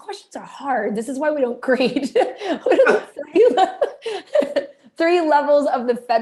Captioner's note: laughter